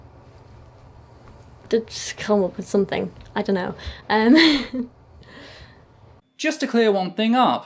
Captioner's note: laughs